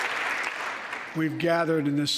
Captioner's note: applause